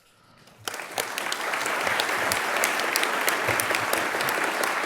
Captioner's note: audience clapping